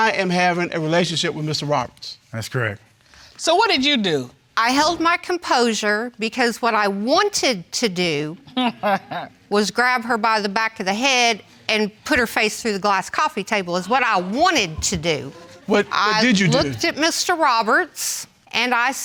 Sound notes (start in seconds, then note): 8.5 judge dana laughs